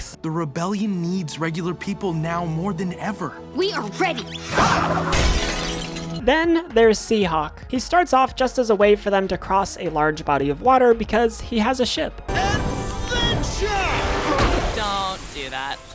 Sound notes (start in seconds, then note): 5.1 plate breaks